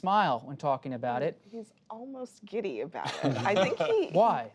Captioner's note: laughter